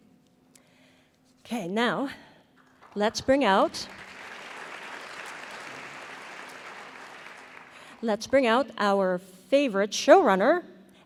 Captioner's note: applause; applause